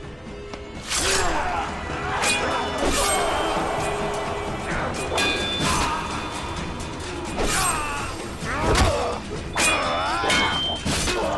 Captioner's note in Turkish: kiliç sesi̇